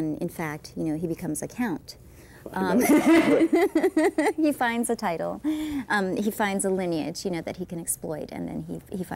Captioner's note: laughing